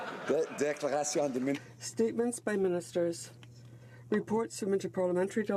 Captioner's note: chuckles